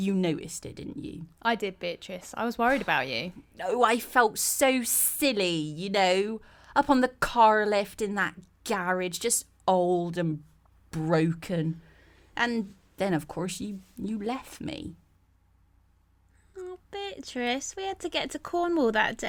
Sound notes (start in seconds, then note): none